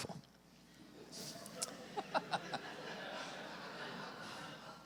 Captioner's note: audience laughing